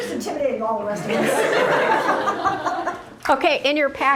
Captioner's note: laughter